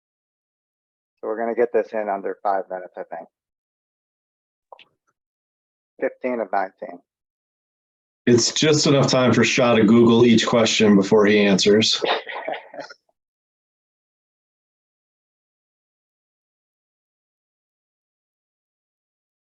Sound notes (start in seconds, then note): 11.9 laughs